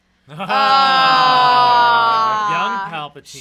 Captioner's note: everyone laughs and says, "Ah."